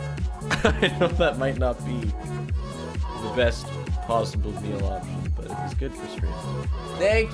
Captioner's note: laughs